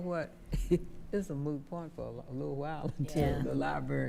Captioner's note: chuckles